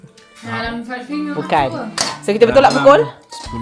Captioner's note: speaking German